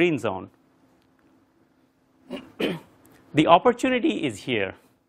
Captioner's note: cough